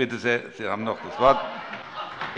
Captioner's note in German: Heiterkeit